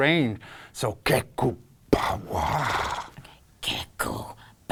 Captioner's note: alien sounds